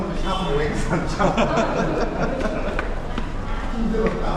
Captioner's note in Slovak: smiech